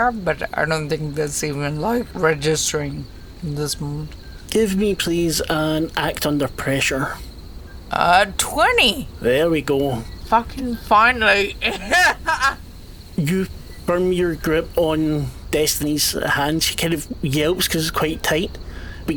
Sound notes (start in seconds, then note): 10.8 laughs